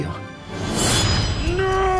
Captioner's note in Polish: siup